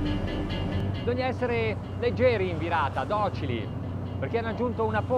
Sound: speaking in foreign language

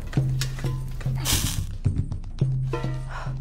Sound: fire sizzles out

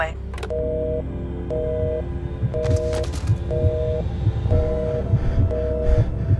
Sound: line ringing

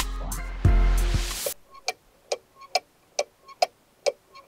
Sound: ticking sound

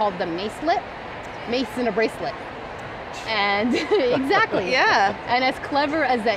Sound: laughs

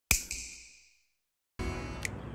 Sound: snap

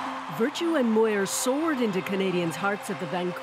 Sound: applause

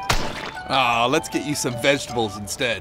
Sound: splatting

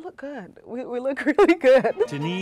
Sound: laughter

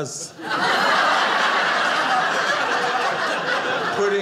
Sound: audience laughing

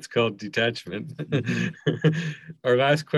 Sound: laughing

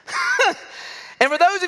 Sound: laughter

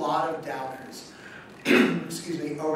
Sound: coughs

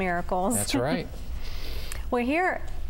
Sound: giggle

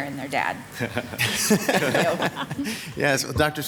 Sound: laughs; members laughing

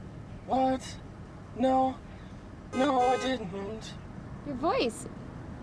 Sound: in robotic voice

